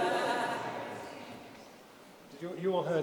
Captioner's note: audience laughing